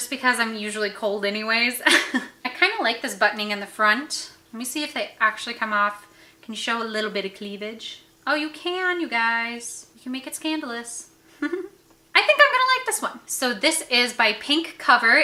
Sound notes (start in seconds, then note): 1.9 laughs; 11.4 laughs